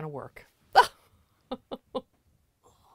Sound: laughter

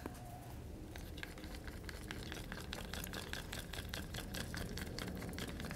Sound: stirring vigorously

